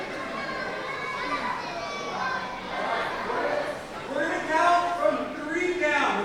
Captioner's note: audience chattering ends